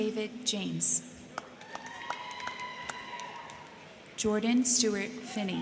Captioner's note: crowd clapping; crowd cheering